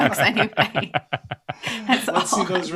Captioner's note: laughter